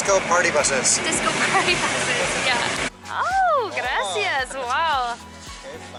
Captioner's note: laughter